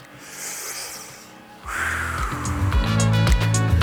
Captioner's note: breathes heavily